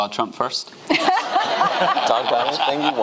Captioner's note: audience laughing